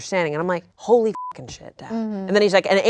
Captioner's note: beep